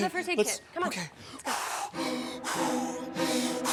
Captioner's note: heavy breathing